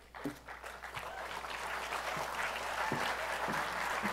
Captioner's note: applause